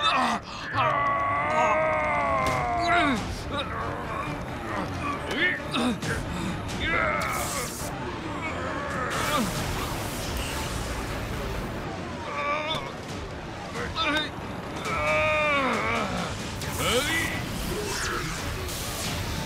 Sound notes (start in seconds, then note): 5.3 intense music playing; 8.7 exerting strength, struggling; 16.0 intense music playing